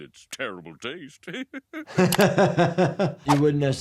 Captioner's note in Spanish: reír